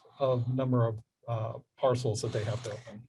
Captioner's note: none